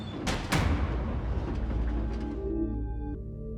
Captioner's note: metal squeaking; percussive sounds